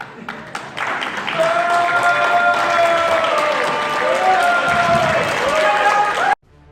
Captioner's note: crowd booing and cheering; instrumental music plays